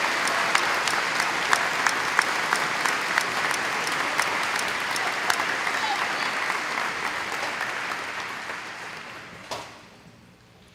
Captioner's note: audience applauding